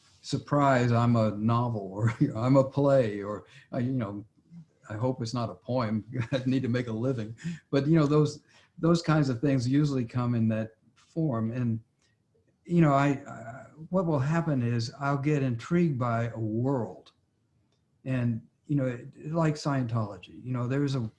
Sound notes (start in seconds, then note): 6.0 laughs